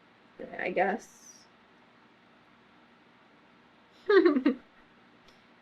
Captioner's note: laughs